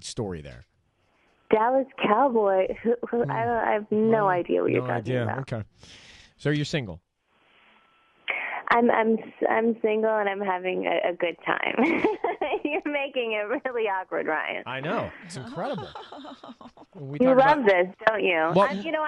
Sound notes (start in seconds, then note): 10.9 laughs